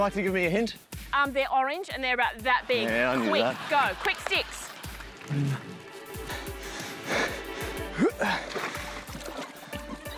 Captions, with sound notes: Would you like to give me a hint? Um, they're orange, and they're about that big. Yeah, I knew that. Quick! Go! Quick, sticks. (GRUNTS)